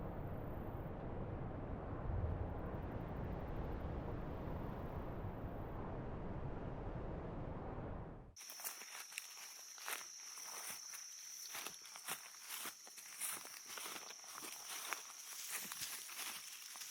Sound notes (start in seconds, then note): 8.5 footsteps pattering; 10.2 insects chittering